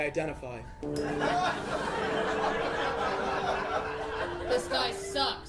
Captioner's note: laughter